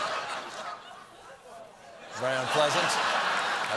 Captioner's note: laughter